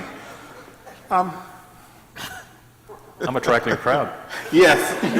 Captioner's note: laughs